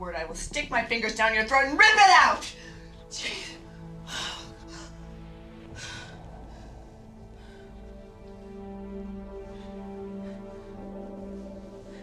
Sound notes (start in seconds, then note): 5.6 panting; 7.8 dramatic orchestral music playing